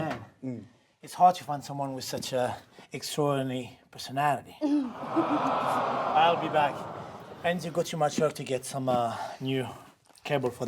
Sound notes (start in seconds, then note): 4.9 audience awwing